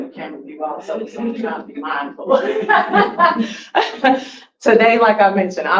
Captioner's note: laughs